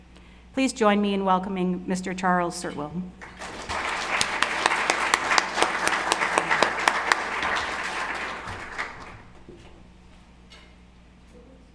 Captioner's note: clapping